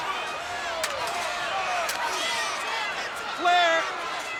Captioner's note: spectators cheering; slaps smacking